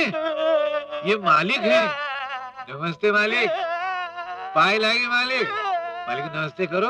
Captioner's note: crying